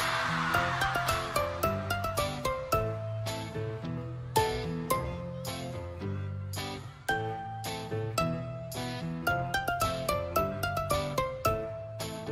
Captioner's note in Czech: Potlesk